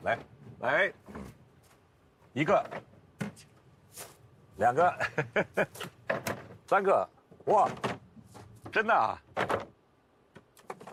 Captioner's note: laughs